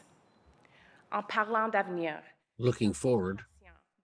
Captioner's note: speaks French